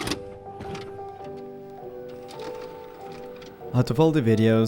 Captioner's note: gentle melancholy music; recorder rattling